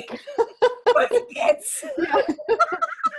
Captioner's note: laughing